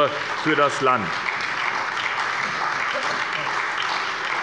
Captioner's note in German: Beifall bei der SPD